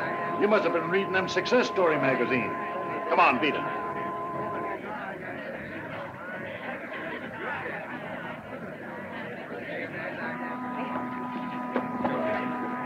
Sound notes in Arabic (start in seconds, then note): 4.9 ثرثرة الناس; 4.9 صوت البوق